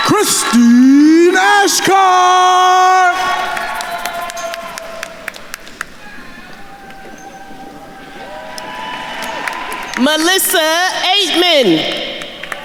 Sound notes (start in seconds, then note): 0.0 attendees cheering and applauding; 3.1 attendees applauding; 8.0 attendees cheering and applauding